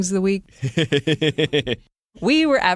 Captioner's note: laughs